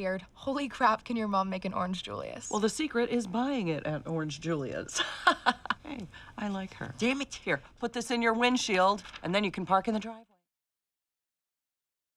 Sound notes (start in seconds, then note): 5.0 laughs